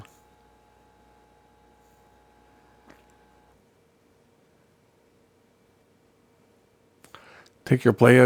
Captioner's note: silence